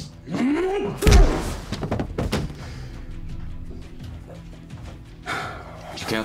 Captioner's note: henchman grunts; pistol smacks